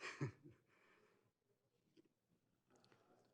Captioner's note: laughs